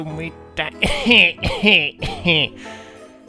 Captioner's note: laughs